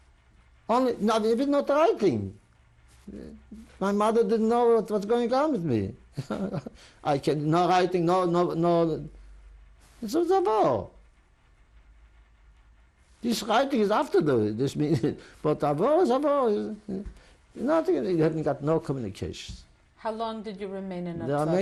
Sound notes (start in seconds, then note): 6.1 laughs